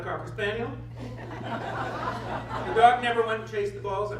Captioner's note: laughter